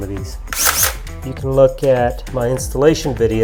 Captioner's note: drill whirs